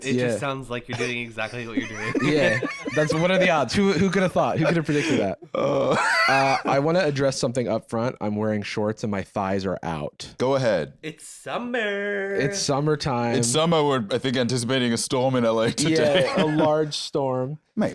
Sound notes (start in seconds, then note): 11.4 singsong